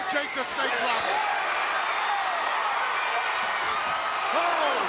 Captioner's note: crowd cheering